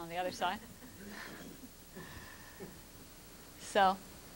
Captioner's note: laughter